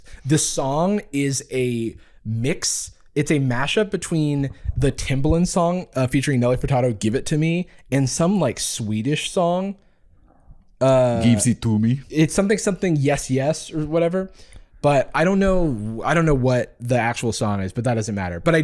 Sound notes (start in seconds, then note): 10.7 Swedish accent